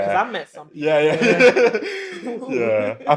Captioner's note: laughter